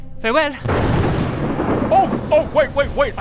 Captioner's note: thunderous wooosh